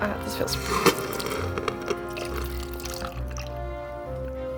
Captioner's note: pouring